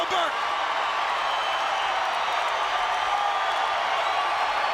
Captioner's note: crowd cheering